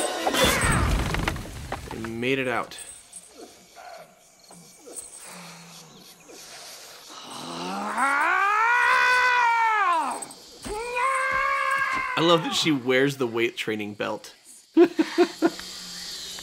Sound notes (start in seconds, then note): 1.4 yells; 9.5 growls and yell